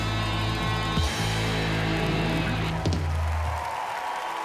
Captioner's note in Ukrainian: оплески